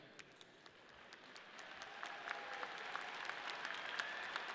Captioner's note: audience clapping